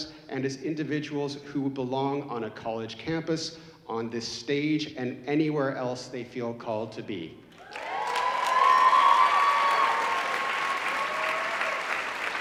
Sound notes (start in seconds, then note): 7.6 audience cheering